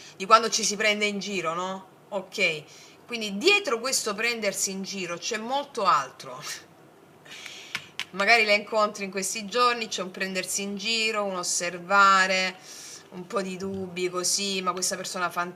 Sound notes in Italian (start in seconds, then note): 12.6 sbuffare